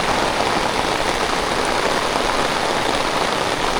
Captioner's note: rain